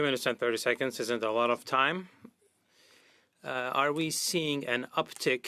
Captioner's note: speaking French